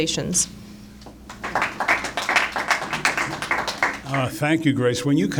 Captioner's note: applause